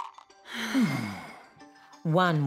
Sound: box shakes; wizards sigh

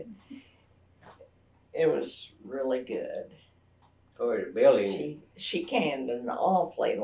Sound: laughs

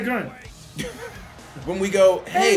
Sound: laugh

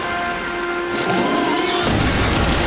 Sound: roaring

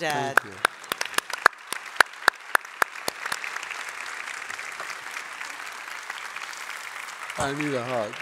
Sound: applause

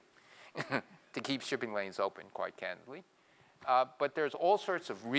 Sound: laugh

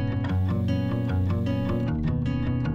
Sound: upbeat music continues; milling machine whirring; upbeat music continues

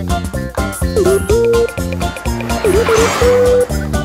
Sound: car engine revving

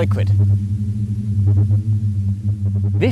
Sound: eerie warbling

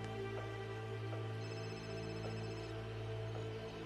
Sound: phone ringing

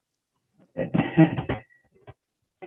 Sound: laughter

